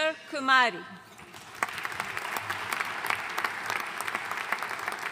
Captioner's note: audience applauding